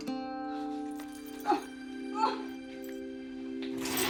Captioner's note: groaning